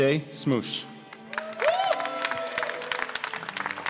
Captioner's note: applause